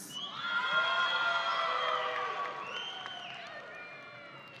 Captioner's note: audience applauding